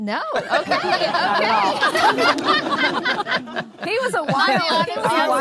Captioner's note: laughing; audience laughing